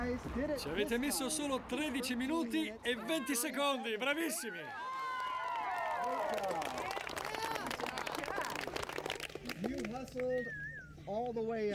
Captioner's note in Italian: Applauso